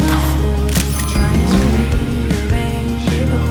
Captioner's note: engine revving